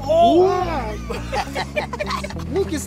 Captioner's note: gang laughing